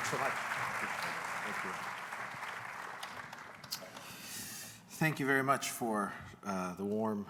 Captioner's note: applause